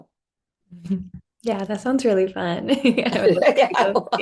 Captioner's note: laughs